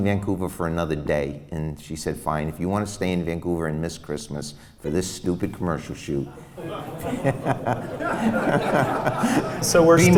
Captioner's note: laughs